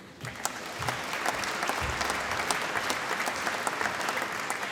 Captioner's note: applause